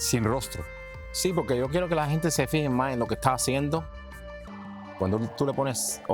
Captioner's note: speaks in foreign language